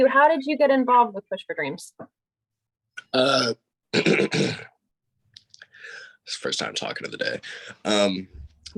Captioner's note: clears throat